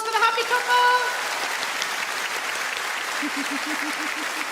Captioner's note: audience clap